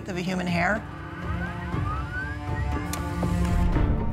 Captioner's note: humming